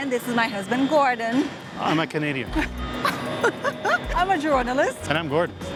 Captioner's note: laughs